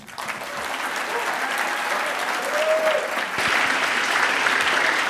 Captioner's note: audience applauding